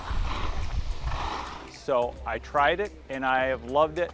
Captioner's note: skis swishing; steady music